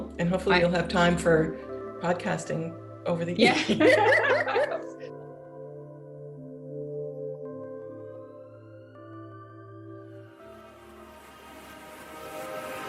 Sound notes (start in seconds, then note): 3.4 laughter